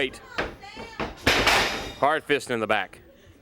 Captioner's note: crowd chatter